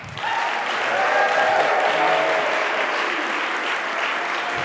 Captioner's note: audience applauding